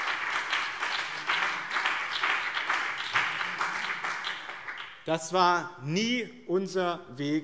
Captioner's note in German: Beifall BÜNDNIS 90/DIE GRÜNEN